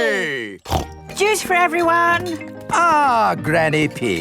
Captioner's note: snorts